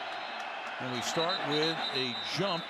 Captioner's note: whistle